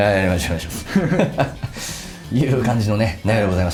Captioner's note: laughs